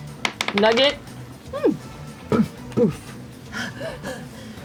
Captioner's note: poofs